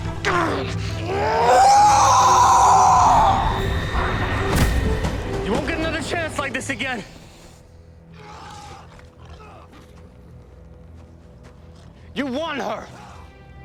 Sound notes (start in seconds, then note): 0.9 howling